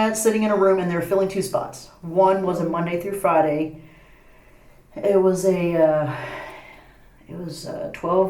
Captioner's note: sigh